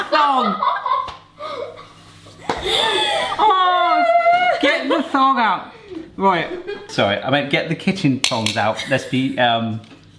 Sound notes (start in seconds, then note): 0.0 laughing; 2.6 laughs; 8.2 tongs clank